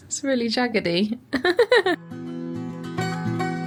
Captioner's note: laughs; upbeat music